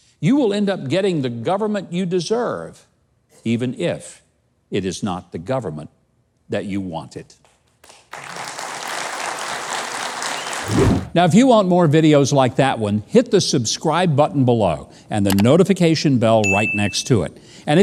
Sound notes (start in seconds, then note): 7.7 audience clapping